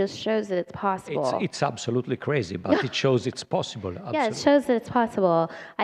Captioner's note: laughter